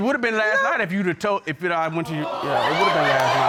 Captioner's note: stutters